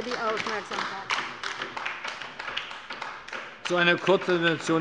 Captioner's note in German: Beifall bei der LINKEN